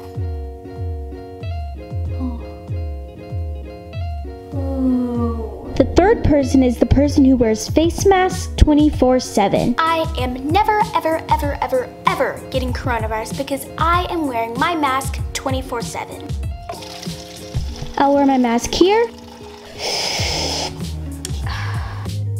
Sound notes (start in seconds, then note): 0.2 light music; 16.6 water pouring; 19.2 light music; 19.8 sipping water; 22.1 light music